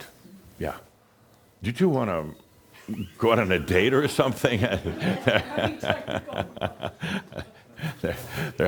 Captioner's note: chuckles